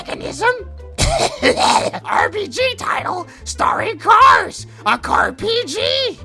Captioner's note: coughs